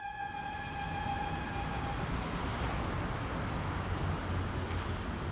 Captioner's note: engines roaring